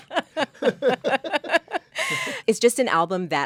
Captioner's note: Eisa and Lin-Manuel laughing